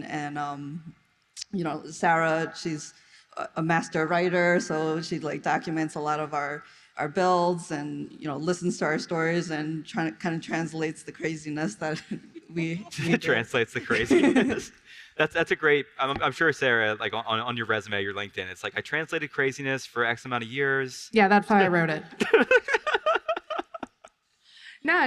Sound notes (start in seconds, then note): 13.5 all laugh softly; 22.2 all laugh